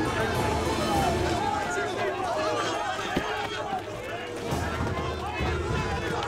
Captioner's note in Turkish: Yuhalama sesleri